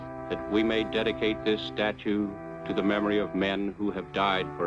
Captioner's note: none